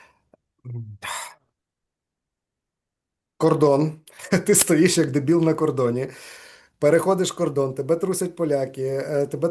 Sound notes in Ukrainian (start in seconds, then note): 1.0 зітхає